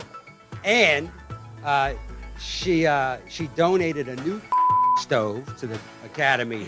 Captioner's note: beep